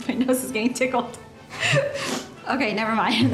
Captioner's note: sniffles softly